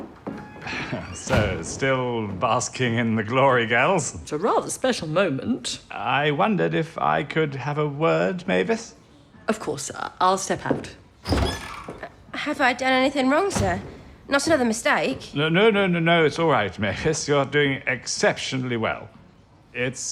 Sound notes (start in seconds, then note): 0.0 footsteps, and the door opens and closes; 11.2 footsteps, and the door opens and closes